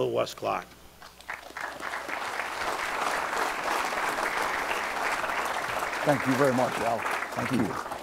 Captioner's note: applause